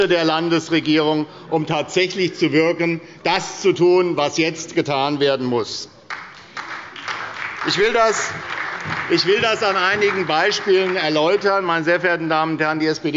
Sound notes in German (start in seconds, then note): 6.0 Beifall bei der SPD